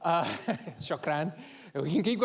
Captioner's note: laughing